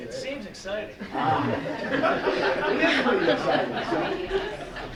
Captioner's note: laughter